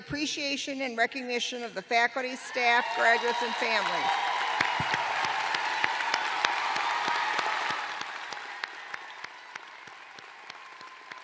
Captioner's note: cheers and applause